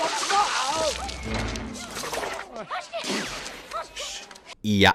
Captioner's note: confused sounds